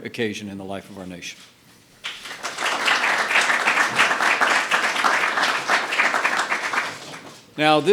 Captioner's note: applause